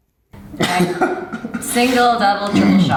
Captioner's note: laughs